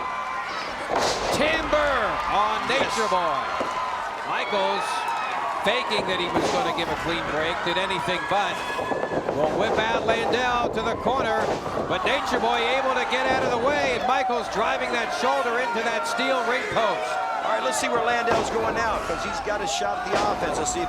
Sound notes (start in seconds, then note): 0.8 body thuds